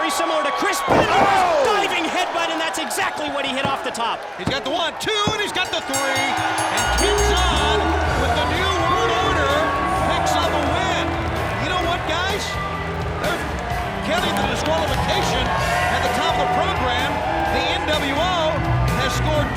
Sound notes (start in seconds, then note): 6.8 bell ringing